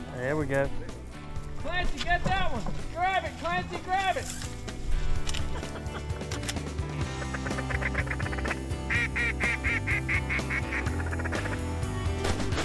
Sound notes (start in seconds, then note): 7.1 laughter, further duck calls